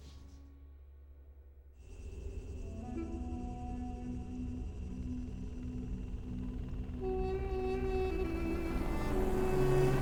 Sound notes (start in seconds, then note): 4.1 helicopter rotors beating